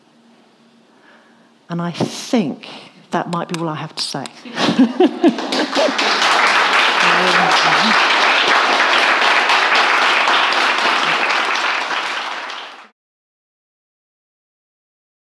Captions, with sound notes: And I think that might be all I have to say. (laughs) (audience applauding)